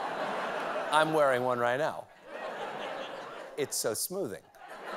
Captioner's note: laughter